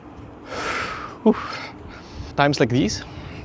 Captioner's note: sighs